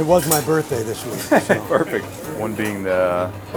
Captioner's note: chuckling